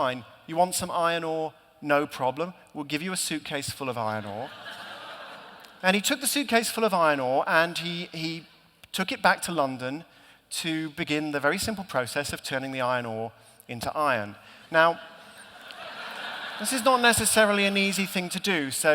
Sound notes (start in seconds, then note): 14.9 laughter